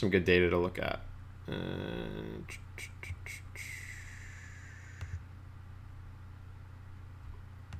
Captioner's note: typing on keyboard